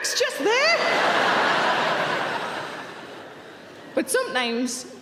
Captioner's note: audience laughing